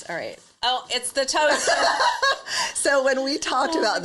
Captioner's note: laughs